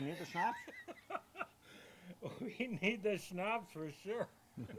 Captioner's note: laughing